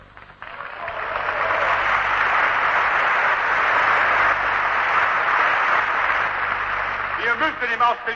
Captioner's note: applause